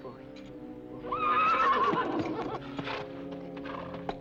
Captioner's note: horse whinnies